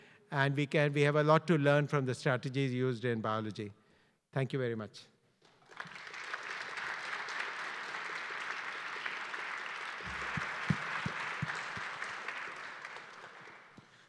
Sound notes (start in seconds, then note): 5.5 audience applauding